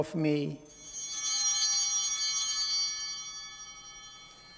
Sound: chimes ringing

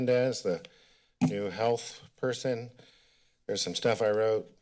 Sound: tap sounds

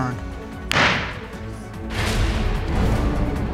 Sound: bangs gavel

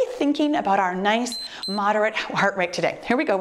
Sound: timer beeps

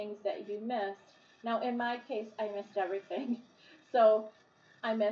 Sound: chuckling

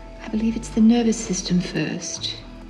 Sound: none

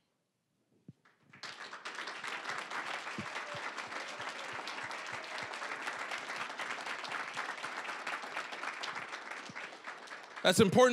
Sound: applause

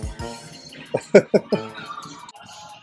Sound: laugh out loud

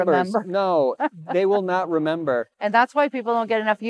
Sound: laughs

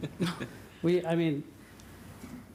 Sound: laughter

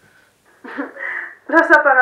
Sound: laughs

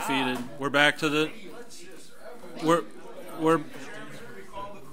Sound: overlapping chattering

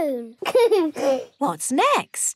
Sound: giggles

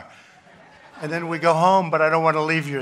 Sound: laughter

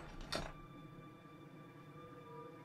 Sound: metal Rattles

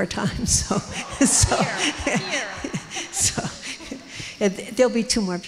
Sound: audience laughs

